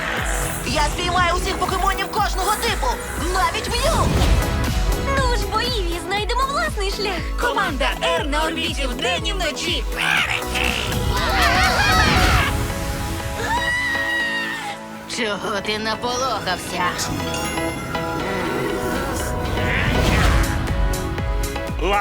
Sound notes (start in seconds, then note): 10.0 all scream; 13.3 screams; 18.2 all growling; 19.1 exclaims; 20.3 pleasant music continues